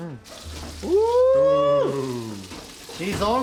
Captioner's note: pan sizzles